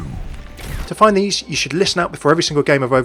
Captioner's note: voiceover